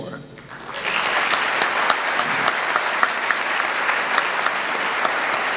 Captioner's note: audience clapping